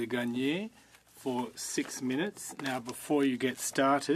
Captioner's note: speaking French